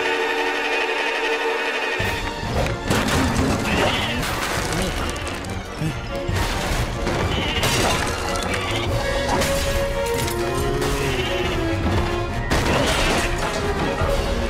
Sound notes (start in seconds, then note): 0.3 bleating angrily; 8.9 bleating